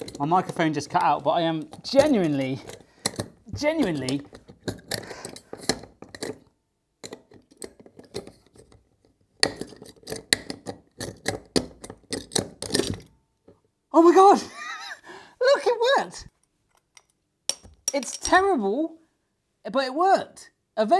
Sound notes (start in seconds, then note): 3.5 metal clanking